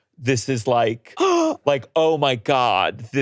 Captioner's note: gasps